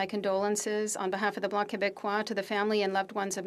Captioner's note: speaking French